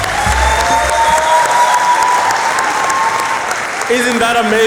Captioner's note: applause